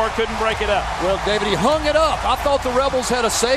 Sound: voiceover

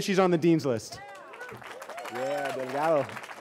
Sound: cheering

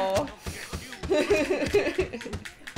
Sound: laughter

